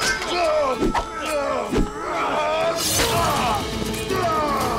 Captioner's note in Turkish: Bağırıyorlar